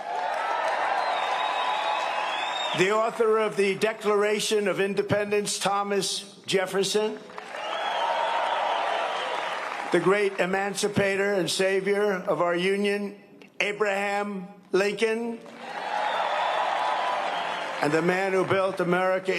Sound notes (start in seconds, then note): 3.3 cheering and applause; 12.4 cheering and applause